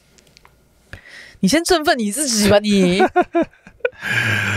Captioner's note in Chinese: 哈哈哈